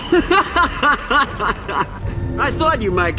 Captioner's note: laughs maniacally